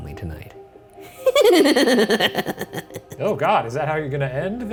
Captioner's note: laughing sarcastically